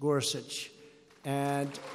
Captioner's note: applause